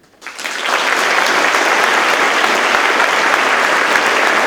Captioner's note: audience claps